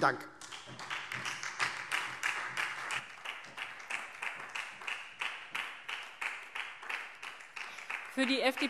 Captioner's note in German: Beifall SPD